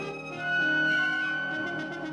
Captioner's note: nose whistles